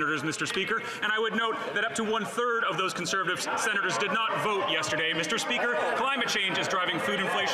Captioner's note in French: voix de l'interprète